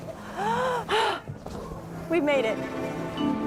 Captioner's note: gasps